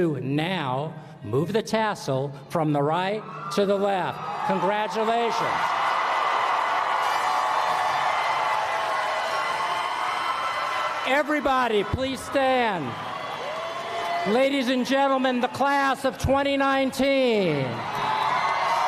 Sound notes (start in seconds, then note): 5.3 applause; 17.5 applause